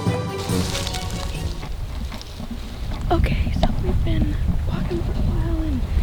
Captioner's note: whispering